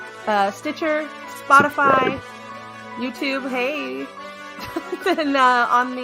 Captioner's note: laughing